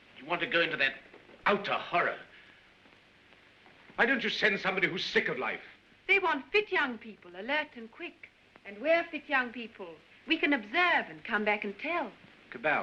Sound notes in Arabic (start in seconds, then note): none